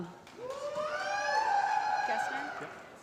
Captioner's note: applause